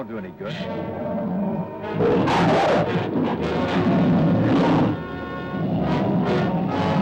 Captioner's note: dramatic music; lizard bellowing